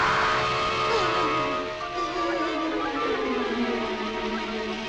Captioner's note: dramatic music; Emiko whimpering